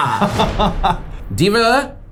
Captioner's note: laughs